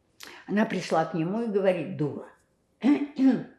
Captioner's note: clears throat